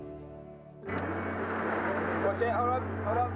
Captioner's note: pensive music; car droning; wind whooshing